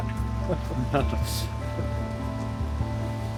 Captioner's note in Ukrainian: сміх